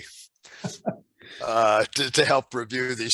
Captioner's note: laughing